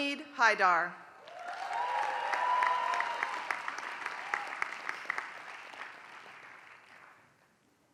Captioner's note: applause